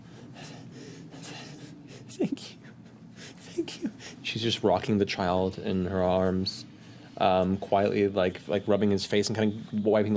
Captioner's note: crying